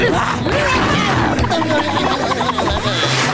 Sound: growling

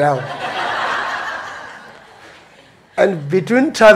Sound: audience laughing

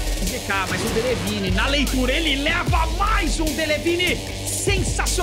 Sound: foreign language

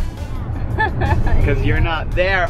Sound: laughs

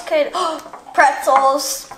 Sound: assistant gasps

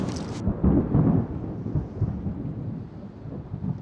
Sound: thunder booms

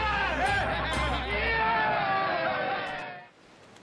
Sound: raucous laughter

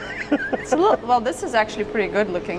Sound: laughing

